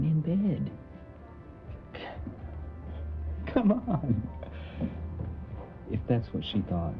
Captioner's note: laughs